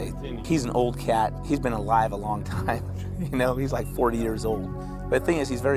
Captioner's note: laughing